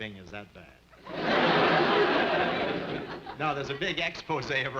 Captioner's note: audience laughing